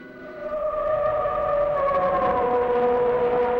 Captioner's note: eerie howling